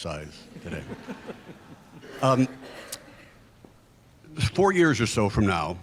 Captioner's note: group laughs